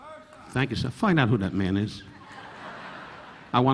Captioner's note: audience laughing